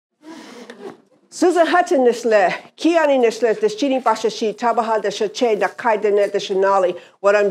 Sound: Speaking Navajo

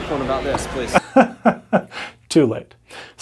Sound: laughs

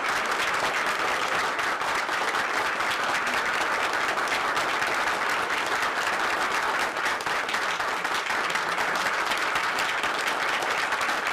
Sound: applause

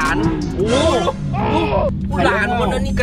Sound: engine rumbling

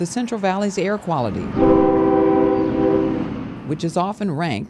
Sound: train horn

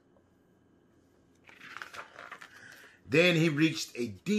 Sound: paper flipping

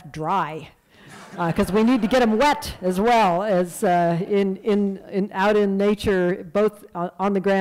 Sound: laughter

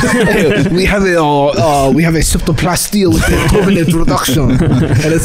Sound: French accent

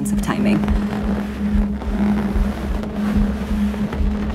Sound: rubbing of a balloon

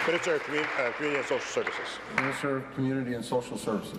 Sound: applause

